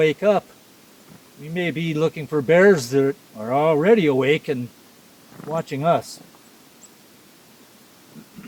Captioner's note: clears throat